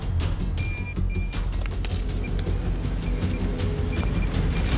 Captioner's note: beeping